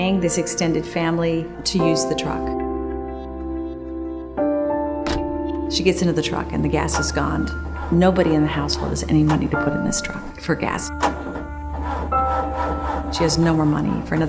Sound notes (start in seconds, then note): 5.0 truck door closes; 10.9 engine starting